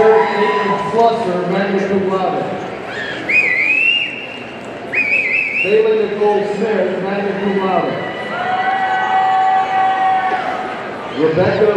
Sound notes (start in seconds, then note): 2.9 audience member whistles; 8.8 audience cheering